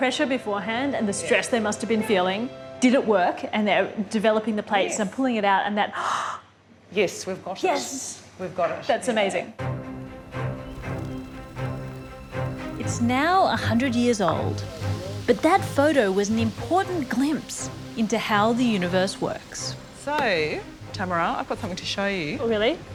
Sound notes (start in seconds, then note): 6.7 gasps